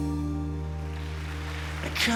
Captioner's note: applause